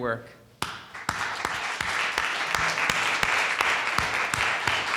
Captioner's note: audience applauding